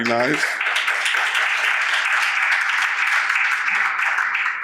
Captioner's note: audience applauds